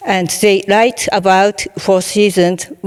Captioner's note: none